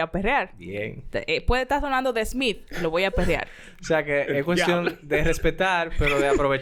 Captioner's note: laughs